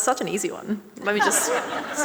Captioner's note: audience and panellists laughing